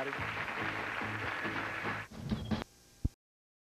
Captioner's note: audience applauding